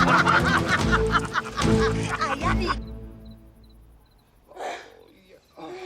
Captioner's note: laughing Together; swedish Accent